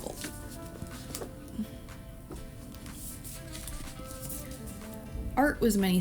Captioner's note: opening book to page